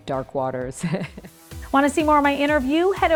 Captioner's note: laughs